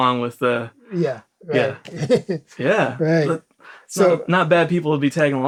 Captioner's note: laughs